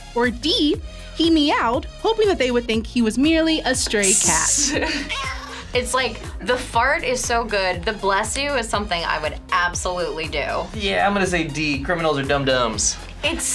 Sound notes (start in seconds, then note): 4.0 laughs; 4.4 cat meows